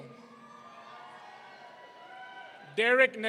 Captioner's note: audience cheering